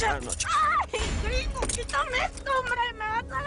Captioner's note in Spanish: Gritos